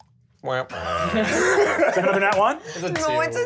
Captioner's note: laughs